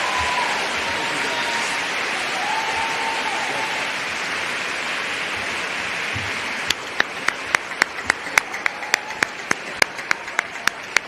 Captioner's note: applause